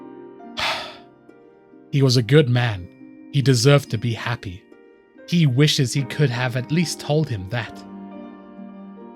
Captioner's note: sigh